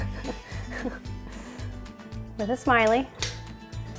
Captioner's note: chuckling